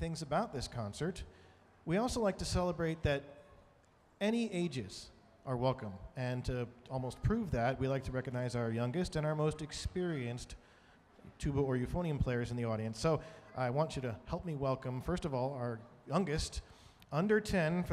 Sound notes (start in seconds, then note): none